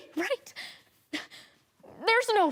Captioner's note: heavy breathing